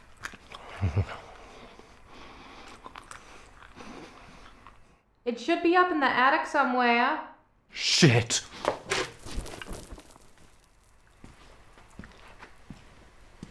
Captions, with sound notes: (female voice offscreen) It should be up in the attic somewhere. Shit.